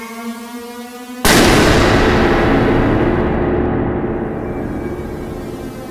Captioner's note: loud bang